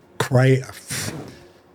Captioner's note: zipper zipping